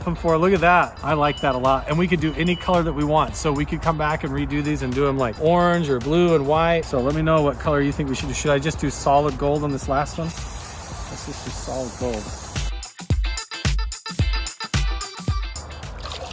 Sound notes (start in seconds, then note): 9.7 spray can spraying; 12.6 upbeat music